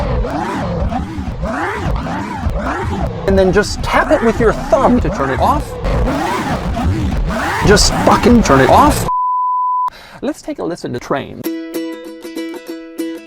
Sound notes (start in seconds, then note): 0.0 very distorted wavy vVrRrOoOoOoOmM; 5.7 very loud distorted wavy vrooorooorooorooooo